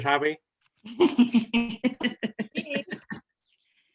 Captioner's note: laughter